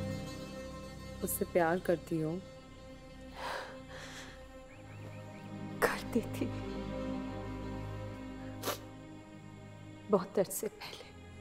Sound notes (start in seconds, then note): 3.4 Sighs; 8.6 Meher sniffs